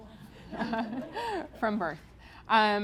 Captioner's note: audience laughs